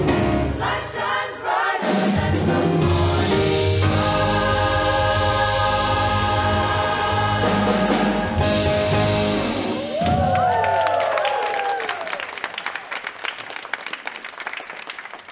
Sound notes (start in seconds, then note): 9.9 choir clapping